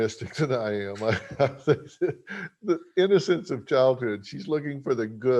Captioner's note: chuckles